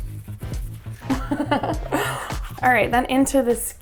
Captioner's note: giggles